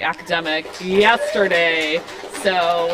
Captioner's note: applause